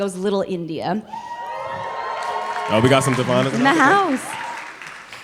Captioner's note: cheering